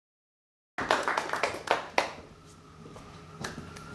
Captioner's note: applause